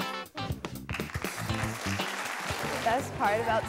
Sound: applause

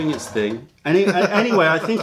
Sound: laughter

